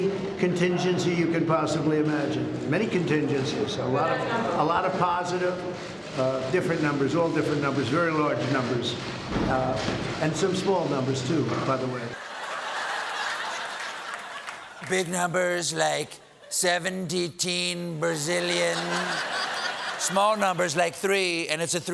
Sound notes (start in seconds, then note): 3.1 cheers and applause